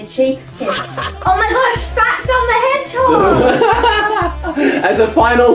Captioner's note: laughs